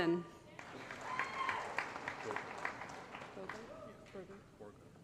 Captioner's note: applause